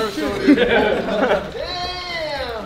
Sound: laughing

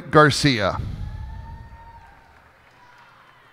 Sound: cheers and applause

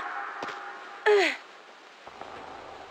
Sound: grunting

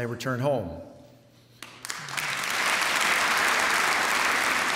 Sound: applause

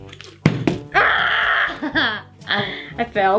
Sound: bottle landing; screaming

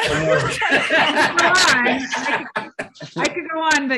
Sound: all laugh

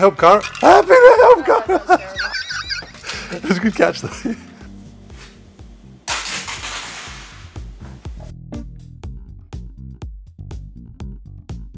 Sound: ha ha

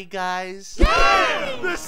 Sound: Team 6 cheers

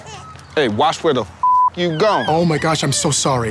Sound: beep

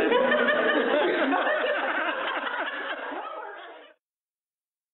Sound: laughter

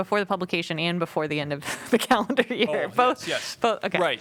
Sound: laughter

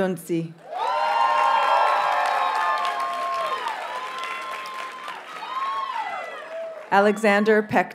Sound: audience cheers and applauds

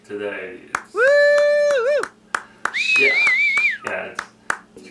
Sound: small Applause

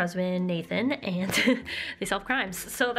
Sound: laughter

